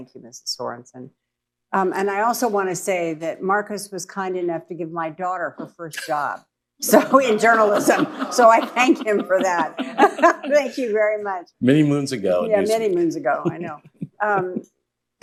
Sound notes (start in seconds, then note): 6.8 laughter; 9.7 laughs